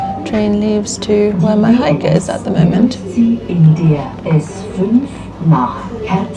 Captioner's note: announcement in German